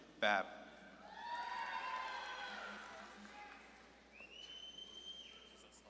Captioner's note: audience claps and cheers